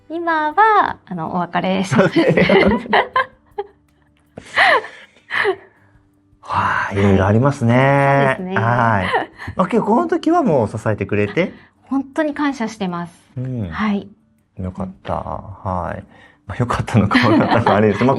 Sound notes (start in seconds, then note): 8.0 laughs